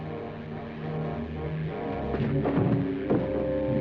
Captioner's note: buzzing